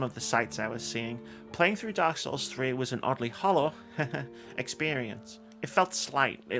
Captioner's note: haha